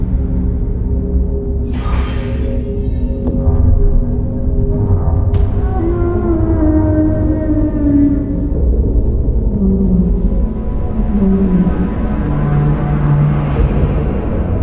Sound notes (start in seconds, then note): 2.0 distant rattling; 2.0 mysterious roaring; 12.0 eerie music